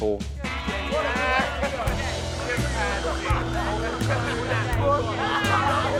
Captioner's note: kids taunting